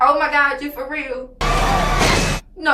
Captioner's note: thud